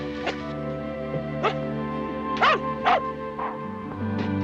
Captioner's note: barking